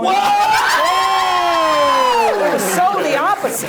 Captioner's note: everyone exclaims